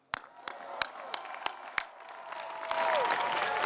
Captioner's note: applause